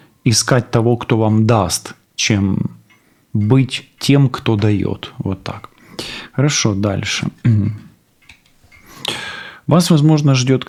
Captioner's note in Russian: откашливается